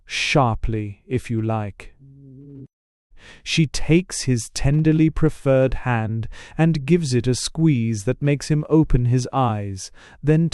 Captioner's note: ruefully